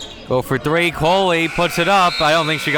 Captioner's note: buzzer blares